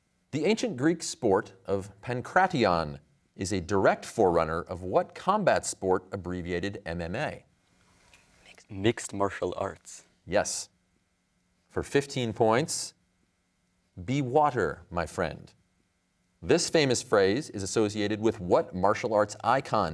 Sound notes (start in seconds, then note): 8.5 whispers